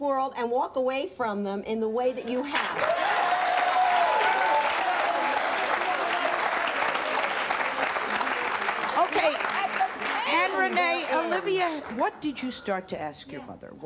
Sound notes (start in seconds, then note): 2.9 applause and cheering